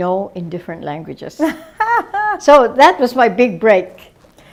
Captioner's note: laughter